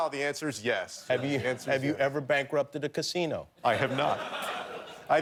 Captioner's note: laughter